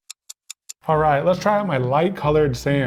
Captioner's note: clock ticking